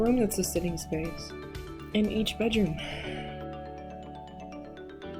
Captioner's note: sigh